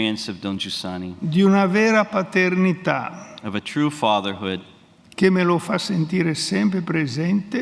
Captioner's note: speaks in Italian